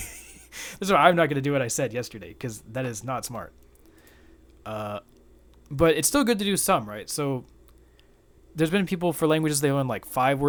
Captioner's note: fake laugh